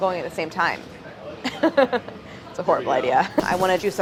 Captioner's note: laughs